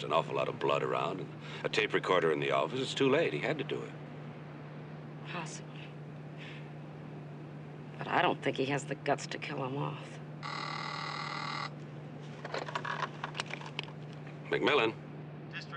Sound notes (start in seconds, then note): 10.4 Telefon çalıyor